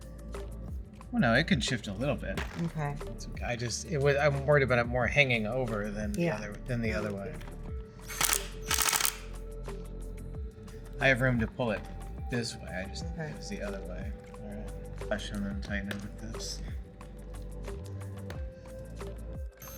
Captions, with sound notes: Well, no, it can shift a little bit. Okay. I just, I'm worried about it more hanging over than the other way (drill whirring) I have room to pull it this way. I just need to see the other way. Actually I wanna tighten it with this.